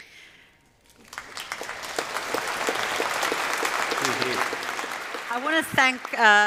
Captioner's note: applause